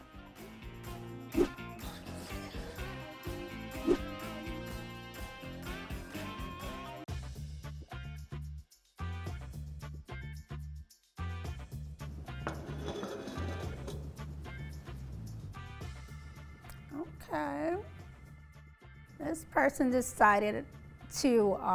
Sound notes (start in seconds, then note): 0.0 upbeat music; 7.3 bright music; 12.4 plates clattering